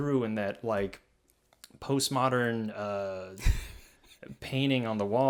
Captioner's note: laughs